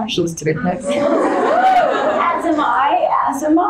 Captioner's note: audience cheering